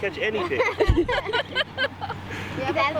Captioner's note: all laughing; laughing